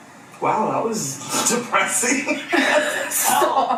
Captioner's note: laughs